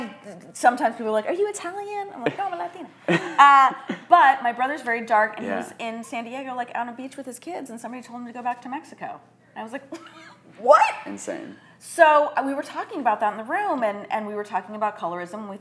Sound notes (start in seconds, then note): 3.0 chuckles